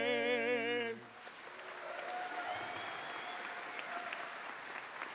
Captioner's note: audience applauding